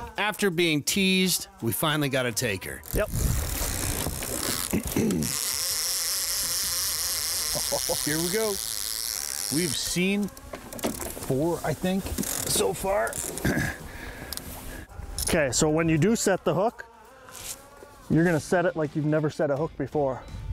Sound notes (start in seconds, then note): 2.7 fishing reel whirring